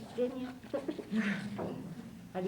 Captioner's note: sighs